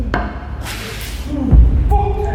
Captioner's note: Chris groaning; bag scrapes